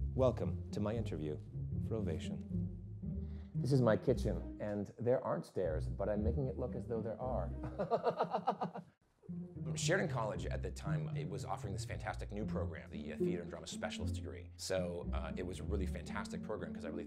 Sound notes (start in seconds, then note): 7.6 laughs